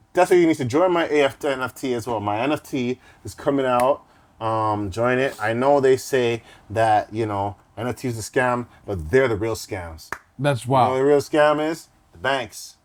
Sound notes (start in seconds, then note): none